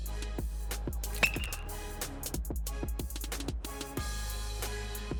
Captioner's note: bat hits ball